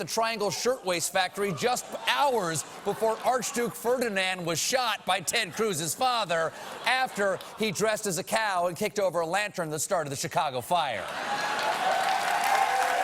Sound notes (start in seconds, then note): 2.8 cheers and applause